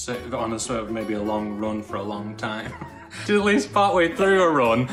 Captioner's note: chuckles